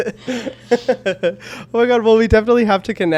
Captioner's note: chuckles